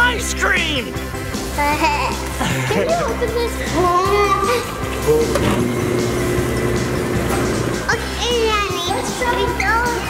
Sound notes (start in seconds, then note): 1.6 giggles; 5.0 machine whirs